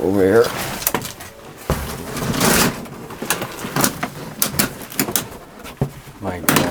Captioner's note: shuffling through stuff